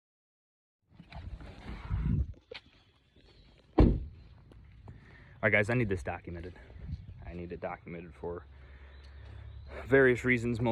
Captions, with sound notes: (birds chirp) (trunk door slams) - All right, guys, I need this documented. I need it documented for various reasons,